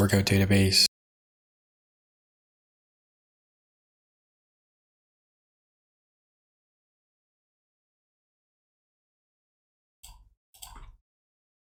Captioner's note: silence